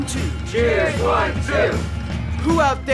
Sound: crowd

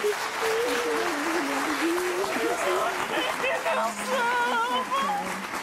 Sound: family crying together

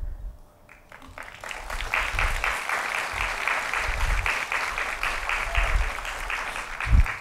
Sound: applause

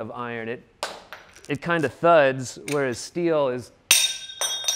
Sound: metal dropping

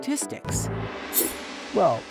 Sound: gong chiming

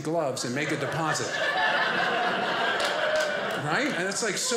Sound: audience laughing

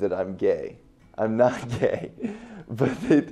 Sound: laughs

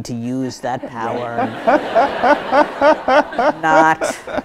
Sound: audience laughs

